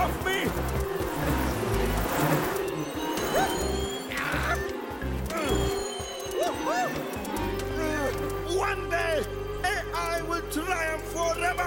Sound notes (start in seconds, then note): 0.3 buzzing; 3.8 shouting